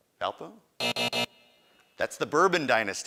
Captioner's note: buzzing